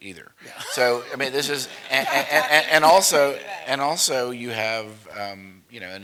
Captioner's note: laugh